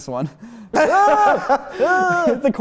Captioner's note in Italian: versi disgustati e risate